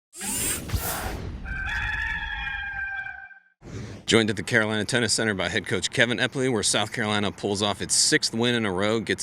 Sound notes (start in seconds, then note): 0.2 robotic buzzing; 1.4 rooster crowing